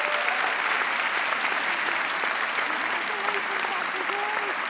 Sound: crowd applauding

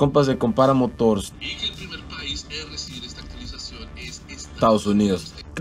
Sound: man speaking in Spanish

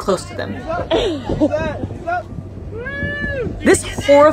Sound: person cheering; person chuckling in clip

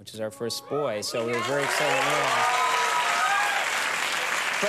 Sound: crowd clapping

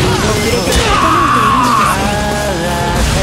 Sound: KO scream

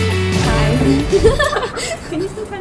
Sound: nervous giggle

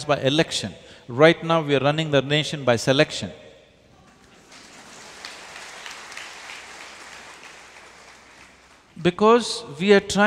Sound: applause

